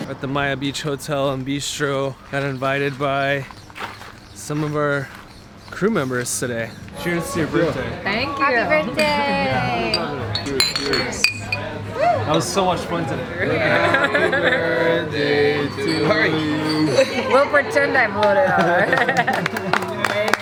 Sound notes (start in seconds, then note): 10.9 crowd; 18.1 laughing